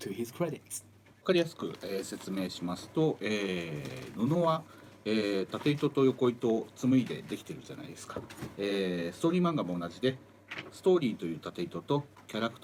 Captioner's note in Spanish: Hablando en japonés